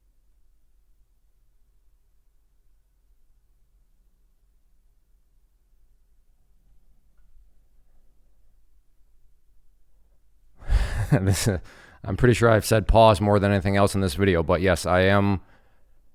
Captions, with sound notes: (laughs) I'm pretty sure I've said pause more than anything else in this video, but yes I am.